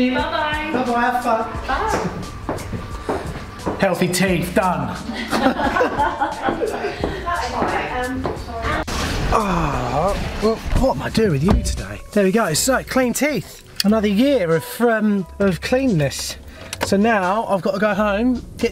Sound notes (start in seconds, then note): 5.0 laughing